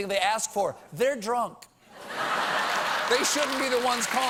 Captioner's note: laughter; applause